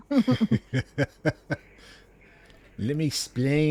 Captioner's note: laughter